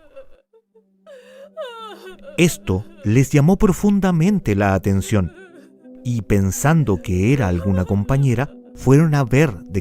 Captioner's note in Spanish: lloros